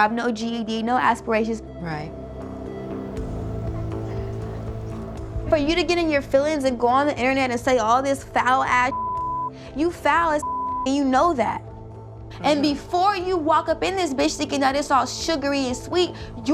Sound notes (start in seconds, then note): 10.4 beep